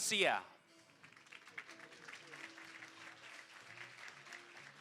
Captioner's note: applause